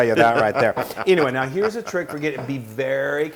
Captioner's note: laugh